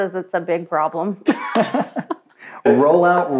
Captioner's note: laughs